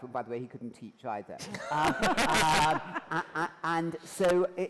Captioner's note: laughter